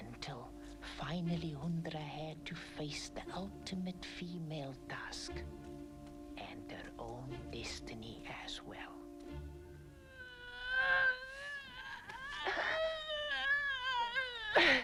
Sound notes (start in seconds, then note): 9.8 Hundra groaning